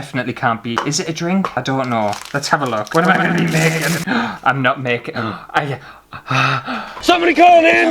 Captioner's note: gasps!